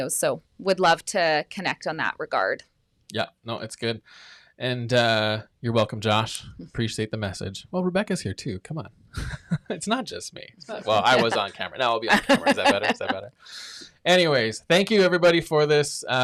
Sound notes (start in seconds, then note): 10.6 chuckles